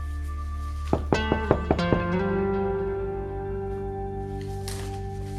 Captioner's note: knock on door